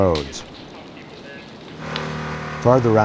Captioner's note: sound of chipper